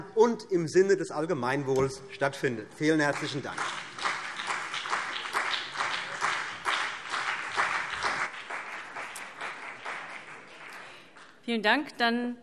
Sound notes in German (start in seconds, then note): 4.8 Beifall CDU und BÜNDNIS 90/DIE GRÜNEN